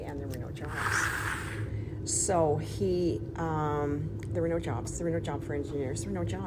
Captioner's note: sighs